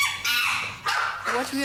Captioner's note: chimp screams